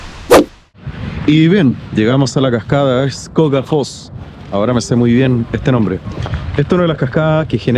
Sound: waterfall sound

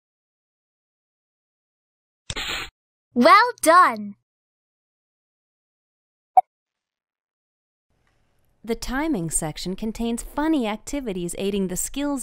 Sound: software says well done

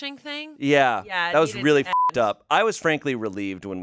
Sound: beep

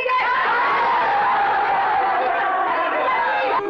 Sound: all Cheering

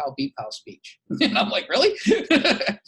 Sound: laughs

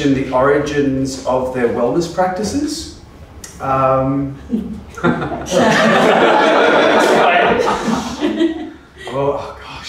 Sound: laughs

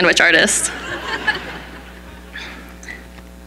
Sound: laughing

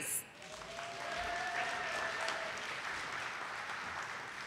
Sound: audience applauding

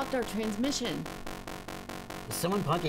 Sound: buzzing

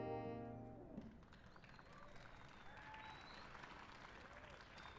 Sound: applause

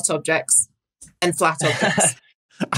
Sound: chuckles

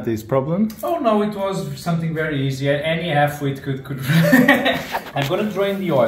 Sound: laughs

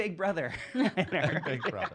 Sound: laughter

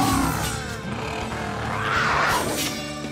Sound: roaring

